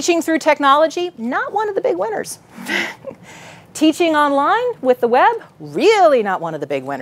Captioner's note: laughs